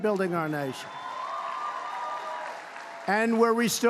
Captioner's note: applause